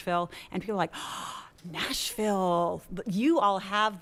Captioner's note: gasps